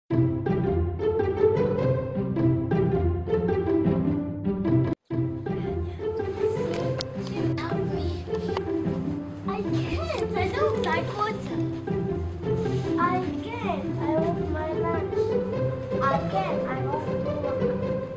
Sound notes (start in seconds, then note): 0.1 upbeat classical music playing; 5.0 children chatter as upbeat classical music continues to play